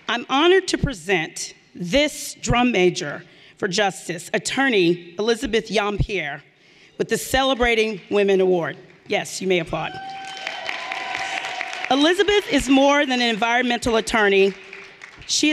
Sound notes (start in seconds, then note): 9.9 everyone applauding